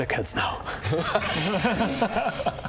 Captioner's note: sorry-about-that laughter